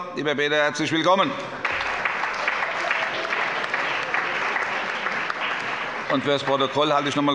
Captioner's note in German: Allgemeiner Beifall